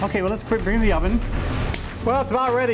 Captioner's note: swish; slap